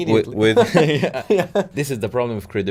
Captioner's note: laughs